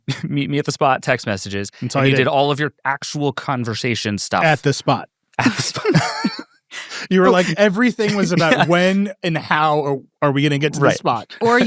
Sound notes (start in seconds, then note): 6.8 people laughing